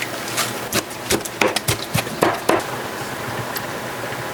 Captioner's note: chop chop chop